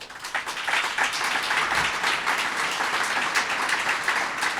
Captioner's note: audience applauds